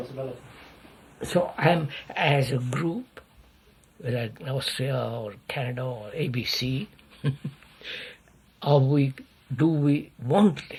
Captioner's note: laughs